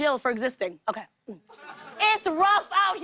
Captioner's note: laughter